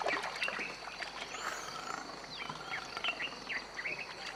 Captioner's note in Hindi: चहचहाहट